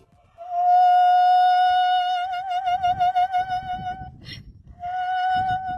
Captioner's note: donkey braying loudly and gently